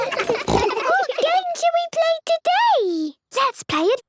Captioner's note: giggles, snorts